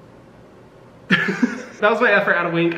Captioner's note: laughing